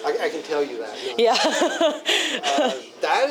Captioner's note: laughs